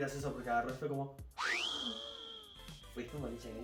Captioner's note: fakes surprise and distress